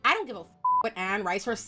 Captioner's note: beep